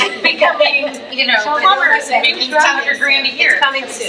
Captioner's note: faintly speaking